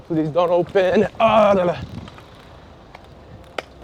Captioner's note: makes noises cycling over grates